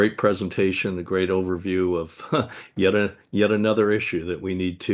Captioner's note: chuckles